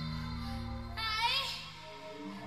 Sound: echoing

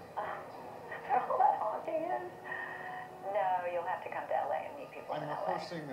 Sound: laughs

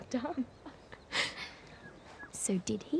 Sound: laughter

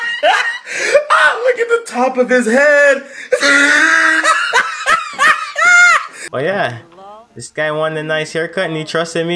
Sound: laughing

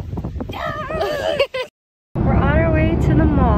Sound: laughing

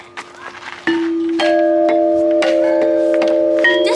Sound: chimes ring

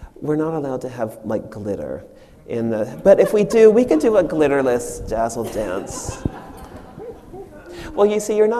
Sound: audience laughs

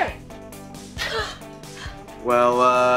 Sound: sigh

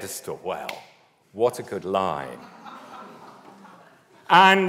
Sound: audience laughs

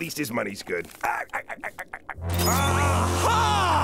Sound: laughing

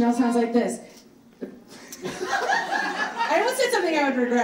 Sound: audience laughs

